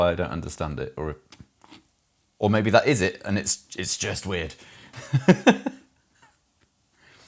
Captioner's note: laughs